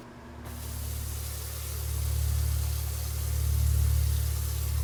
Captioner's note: water running